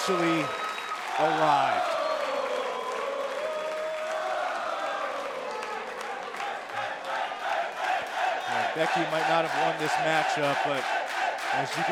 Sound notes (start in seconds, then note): 2.0 crowd cheering